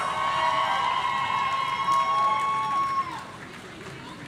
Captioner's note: audience cheering